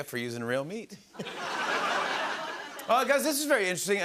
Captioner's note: laughter